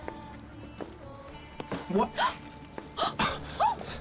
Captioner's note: gasps; laughing